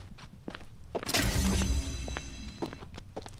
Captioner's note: soft light humming rings